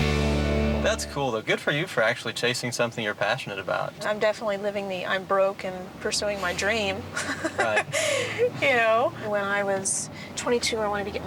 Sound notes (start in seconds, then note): 7.2 laughs